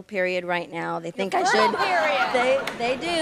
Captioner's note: laughter